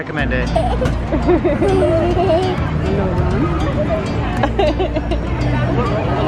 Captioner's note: laughing